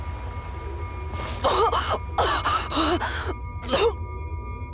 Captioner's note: cough